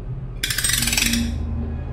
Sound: winding noise

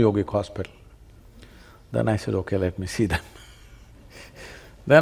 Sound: laughs

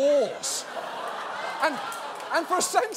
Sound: audience laughing

